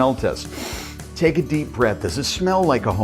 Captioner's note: inhales